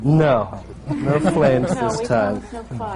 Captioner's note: laughter